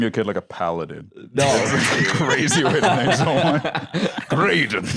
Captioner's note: laughs